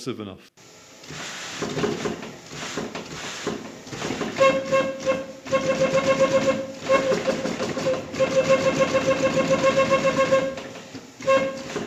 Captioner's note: pneumatic, clicking sounds